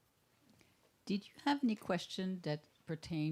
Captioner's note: voiceover